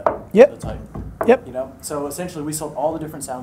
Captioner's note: knocking